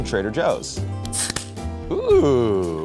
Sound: can opening

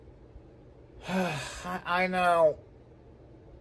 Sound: sighs

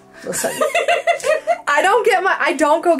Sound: laughs

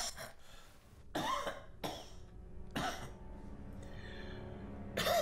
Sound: George coughing

